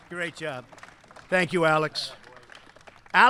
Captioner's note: applause